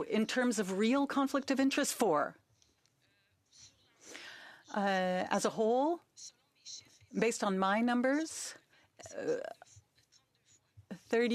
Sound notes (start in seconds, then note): 4.9 speaking French